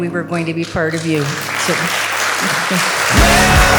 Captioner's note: clapping